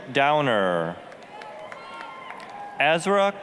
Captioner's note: applause, cheering